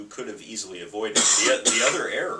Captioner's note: coughs